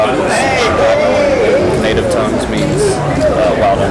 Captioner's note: non-english speech